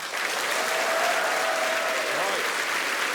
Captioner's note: cheering